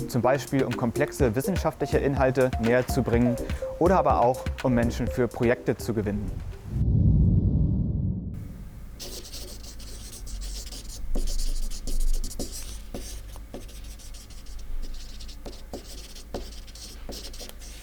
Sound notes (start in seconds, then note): 6.5 swoosh sound; 10.1 scribble sound